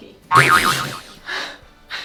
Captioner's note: spring bouncing; spluttering; both laughing